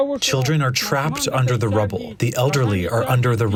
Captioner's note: through translator